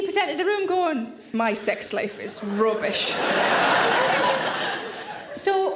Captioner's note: audience laughing